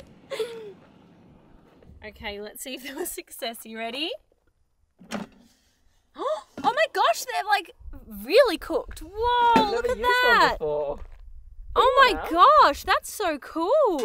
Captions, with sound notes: Okay, let's see if there was success. Are you ready? (gasps) Oh my gosh, they're like really cooked! Whoa, look at that! - You haven't used one before! - Oh my gosh, that's so cool!